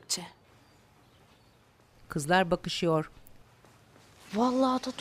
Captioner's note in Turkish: Sessizlik